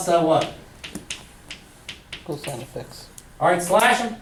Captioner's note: voiceover